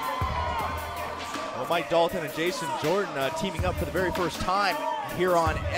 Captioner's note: crowd cheering